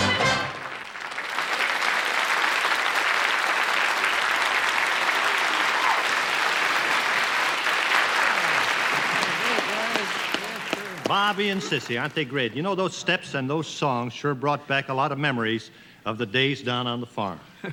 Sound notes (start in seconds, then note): 4.1 applause